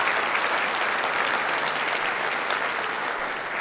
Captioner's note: clapping